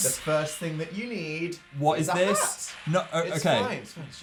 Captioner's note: none